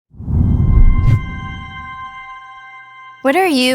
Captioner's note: text whooshing and tense music